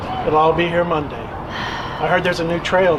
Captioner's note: Kristen sighs